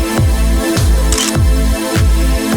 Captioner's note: photo Click